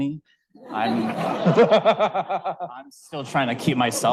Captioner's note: audience laughing